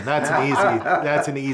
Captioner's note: laughs